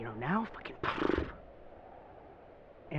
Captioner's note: teddy scoffs